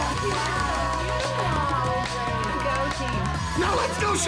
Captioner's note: all applauding